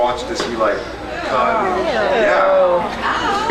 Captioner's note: scattered ews; eews and ows